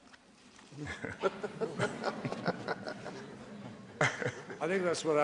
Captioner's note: laughter